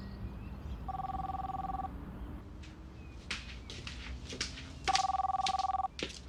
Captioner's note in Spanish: Suena el teléfono